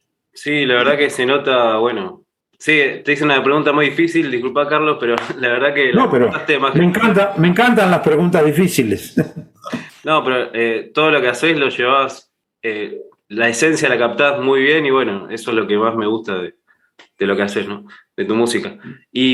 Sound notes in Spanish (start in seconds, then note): 9.0 risas